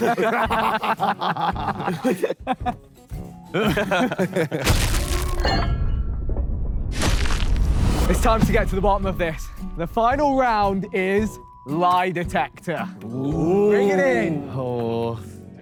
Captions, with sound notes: [Sidemen laugh] [metal clanging] - It's time to get to the bottom of this. The final round is lie detector. Bring it in.